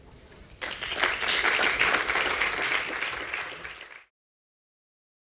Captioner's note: applause